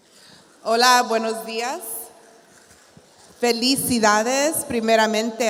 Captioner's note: speaking in Spanish